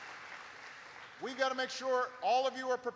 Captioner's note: applause